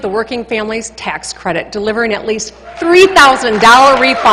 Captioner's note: applause